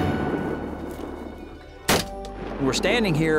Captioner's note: gunshot